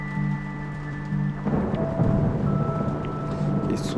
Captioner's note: thunder rumbling